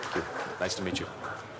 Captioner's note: applause